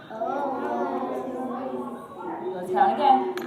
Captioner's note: indistinct chatter